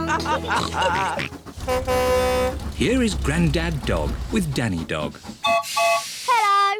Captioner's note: all chuckle; horn blares; toots whistle